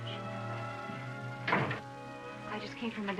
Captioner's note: door shuts